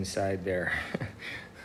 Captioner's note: laughs